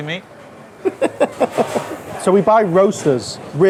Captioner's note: laughs